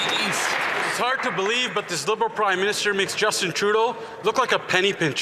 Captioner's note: some Applause